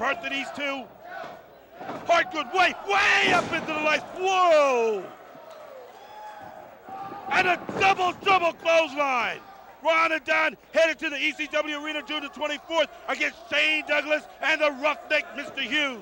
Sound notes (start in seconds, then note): 5.8 crowd chatter